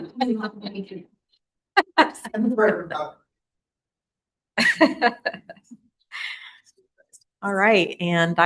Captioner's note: laughter